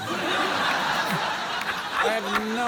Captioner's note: laughter